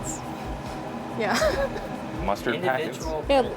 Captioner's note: laughs